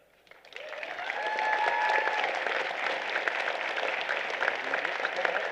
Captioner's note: applause